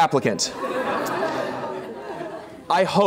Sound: laughter

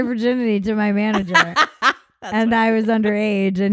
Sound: laughing

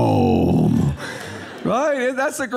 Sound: audience laughing

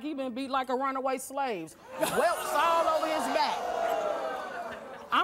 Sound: audience gasping

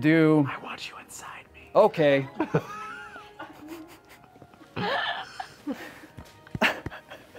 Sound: whispering

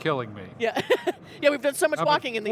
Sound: laughs

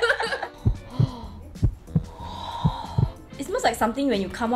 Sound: breathing intensifies

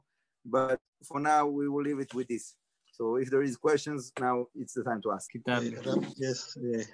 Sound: background voice

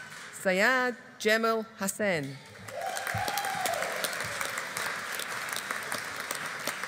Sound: audience applauding

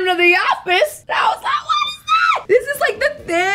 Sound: screaming

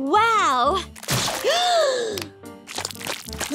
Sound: gasping

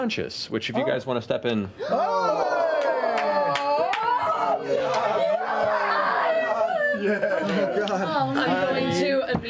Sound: cheering

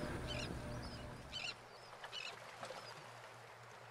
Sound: birds calling

